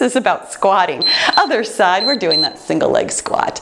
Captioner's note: timer beeps